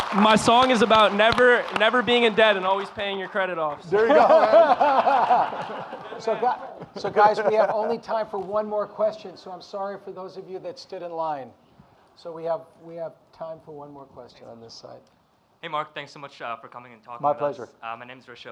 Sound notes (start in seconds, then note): 3.9 audience laughing